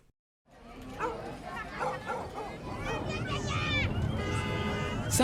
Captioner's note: sounds- people, dog barking, traffic, horn honking